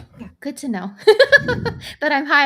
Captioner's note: laughs